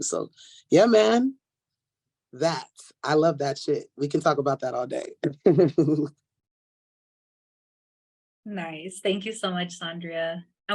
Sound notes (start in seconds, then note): 5.2 laughs